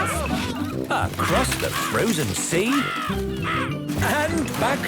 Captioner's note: birds cawing